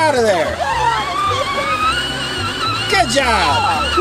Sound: toy excavator moving

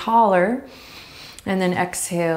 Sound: inhaling deeply

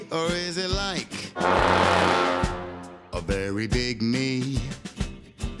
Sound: loud honking

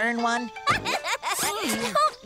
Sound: laughing

